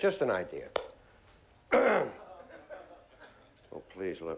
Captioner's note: clears throat